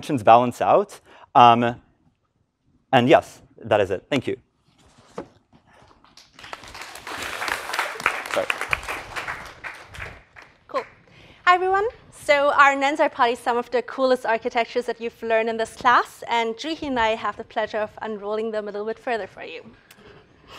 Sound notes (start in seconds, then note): 6.0 applause